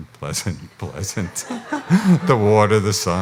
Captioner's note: audience laughs